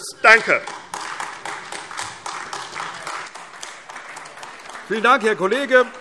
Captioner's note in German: Beifall AfD